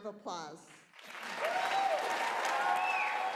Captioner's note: applause